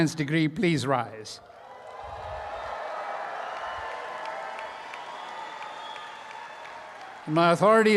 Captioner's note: applause and cheering